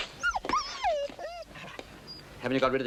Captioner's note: dog whimpers